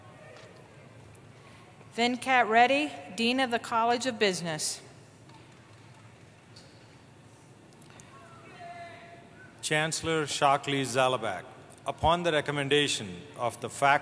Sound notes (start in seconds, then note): none